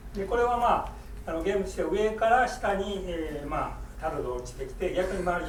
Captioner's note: speaking in foreign language